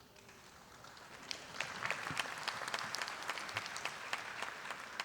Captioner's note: audience applauding